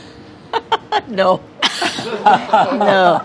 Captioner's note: laughs